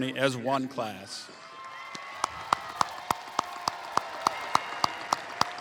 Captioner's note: cheering and applause